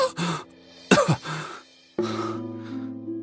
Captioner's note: cough